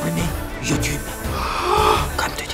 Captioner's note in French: cri de surprise et de culpabilisation